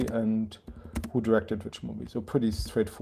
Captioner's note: none